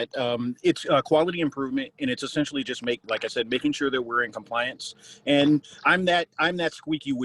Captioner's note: on phone